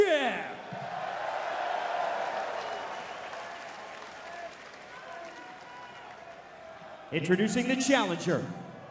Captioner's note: crowd cheering